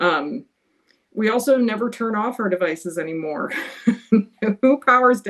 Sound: laughs

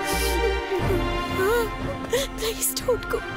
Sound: sobs

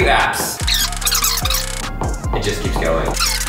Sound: fast forward screech

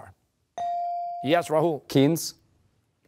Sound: bell rings

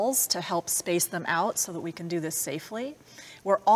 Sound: none

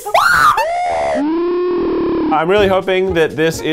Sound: can hisses; both screaming; slow motion screaming

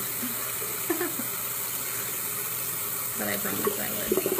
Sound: laughs

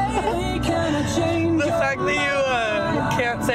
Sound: laughs

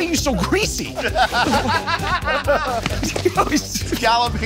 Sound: laughing

